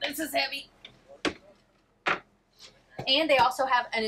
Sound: stove cover thuds

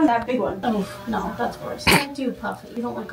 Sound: snorts

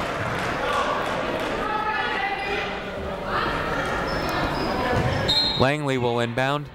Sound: people shouting in the crowd

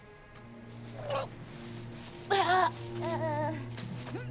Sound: madison grunts

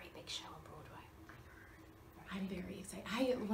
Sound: interviewer whispers; Kathryn whispers; interviewer whispers; Kathryn whispers

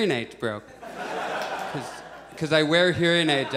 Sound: audience laughs

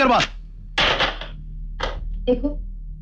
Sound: receiver hang up

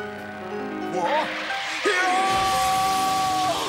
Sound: screams

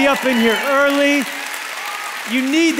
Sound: congregation applauds

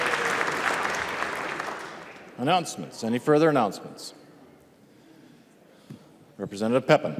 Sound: applause

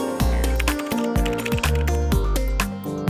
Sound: keyboard types

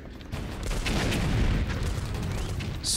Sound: explosion

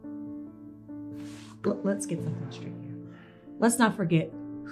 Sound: heavy breathing

